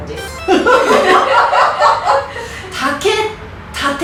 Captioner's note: haha